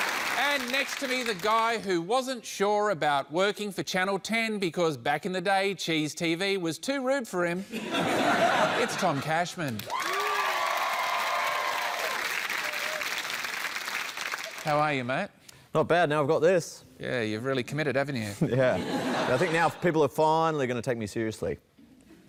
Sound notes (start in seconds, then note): 9.8 cheering, applause